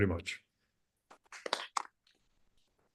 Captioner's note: applause